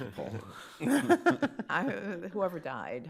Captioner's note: laughter